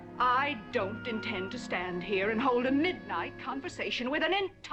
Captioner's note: none